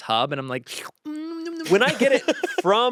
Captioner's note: slurping; laughs